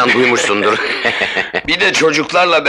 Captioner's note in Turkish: Kahkahalar